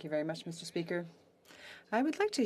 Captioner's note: speaking French